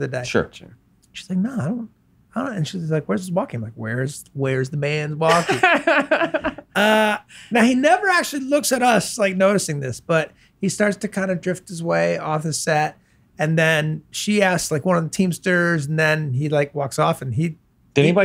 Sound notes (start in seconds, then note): 5.3 laughs